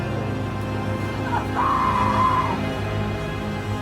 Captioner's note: Anna screaming